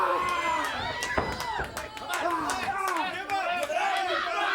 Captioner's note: crowd cheering